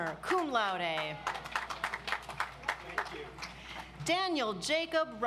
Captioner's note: audience applauds